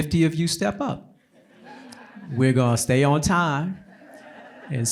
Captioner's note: laughter